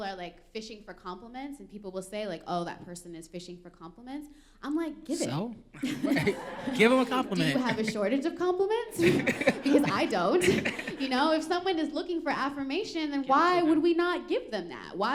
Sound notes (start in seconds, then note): 5.8 laughter